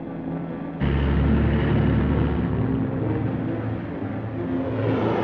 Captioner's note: vehicle whooshes